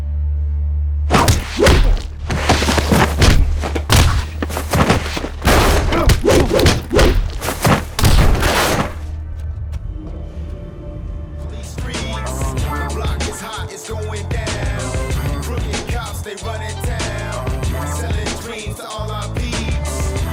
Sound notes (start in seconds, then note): 1.1 blows thudding; 6.2 air whooshing; 6.2 bouncer grunting